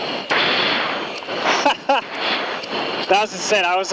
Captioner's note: laughs